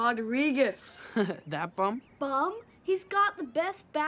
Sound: chucking

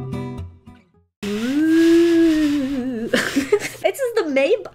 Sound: laughs

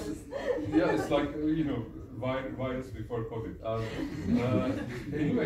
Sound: laughs

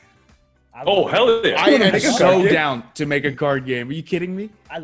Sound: laugh

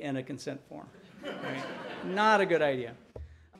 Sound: audience laughing

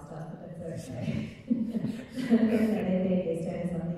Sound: laughing

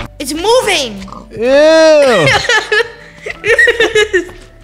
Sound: laughs

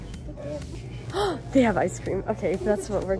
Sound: gasp

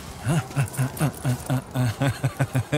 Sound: laughs

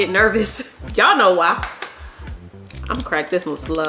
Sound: egg tapping

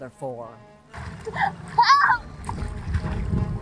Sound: gasping

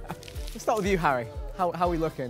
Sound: Vikk laughs

